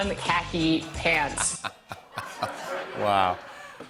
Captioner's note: laughter